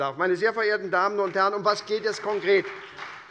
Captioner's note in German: Beifall bei der SPD